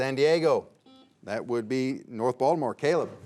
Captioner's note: buzzer beeps